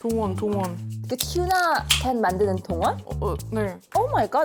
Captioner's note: sound of tuna can opening